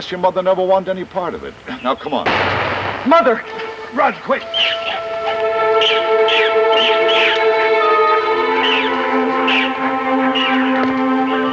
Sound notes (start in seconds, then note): 2.2 gunshot cracks; 5.4 tense music